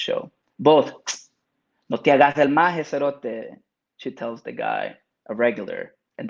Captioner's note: speaks Spanish